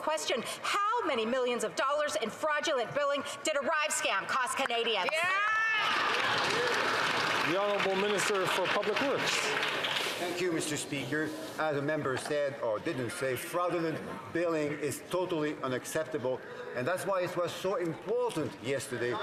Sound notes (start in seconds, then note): 8.3 some Applause